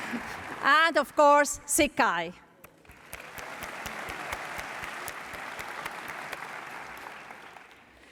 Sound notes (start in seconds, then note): 2.6 applause